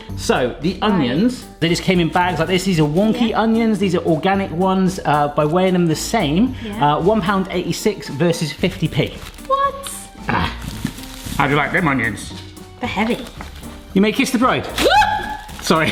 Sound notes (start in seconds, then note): 8.3 onions crunching; 14.8 yelps